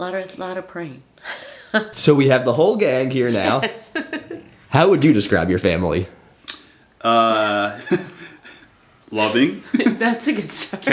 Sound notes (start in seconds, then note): 1.3 Lottie's grandma laughing; 3.3 laughing; 7.5 laughing